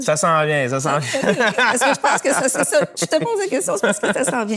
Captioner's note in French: rires